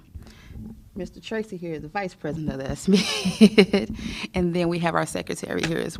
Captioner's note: laughter